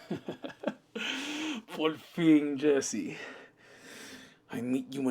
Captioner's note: Spanish